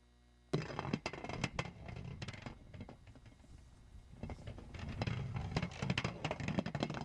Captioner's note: rattling